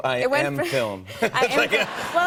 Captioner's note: laughter